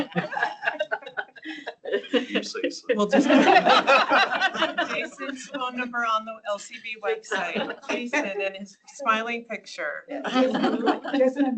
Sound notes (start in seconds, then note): 0.0 laughter